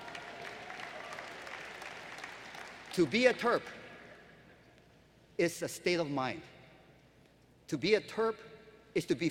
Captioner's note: applause